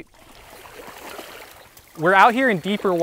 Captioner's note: water splashing